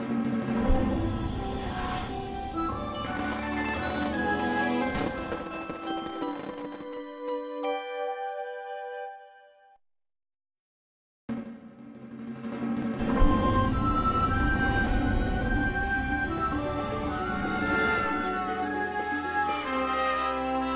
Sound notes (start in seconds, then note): 3.2 fireworks exploding as wondrous music finishes; 12.4 wondrous music plays; 16.9 Kermit shouting excitedly